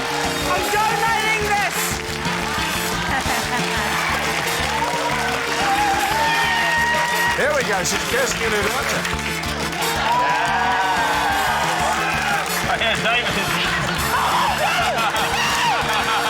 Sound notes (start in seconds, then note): 3.0 laughter; 10.1 rapturous cheering, applause; 15.2 screams